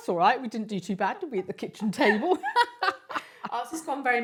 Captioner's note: giggles; laughs